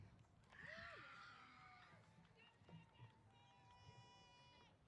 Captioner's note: cheers